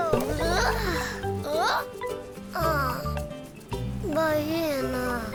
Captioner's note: painter gasps; speaking foreign language